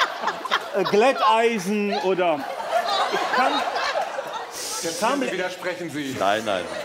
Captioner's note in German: Lachen